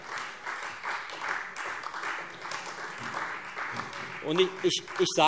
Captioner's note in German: Beifall Freie Demokraten und vereinzelt SPD